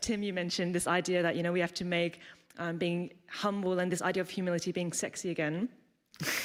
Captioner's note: laughter